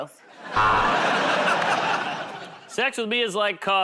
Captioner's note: buzzer